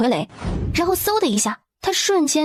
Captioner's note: whoosh!